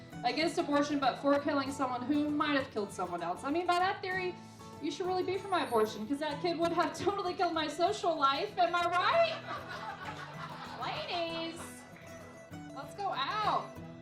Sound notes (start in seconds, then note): 9.1 laughing